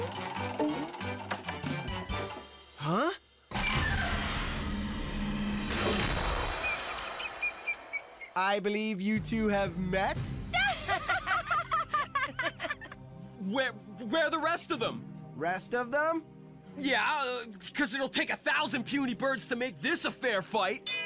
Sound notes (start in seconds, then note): 6.6 bird Chirping; 10.5 Gwen and Courtney Laughing